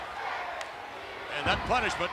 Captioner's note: audience chanting